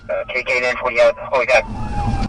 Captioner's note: radio chatter